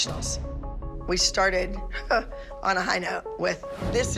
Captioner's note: scoffs